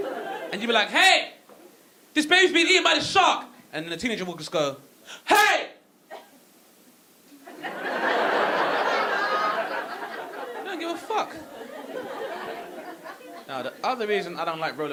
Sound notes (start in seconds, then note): 7.4 audience laughing